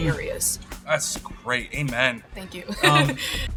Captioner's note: chuckling